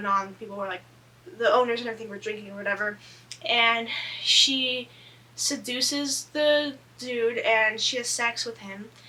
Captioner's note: none